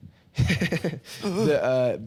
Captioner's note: laughs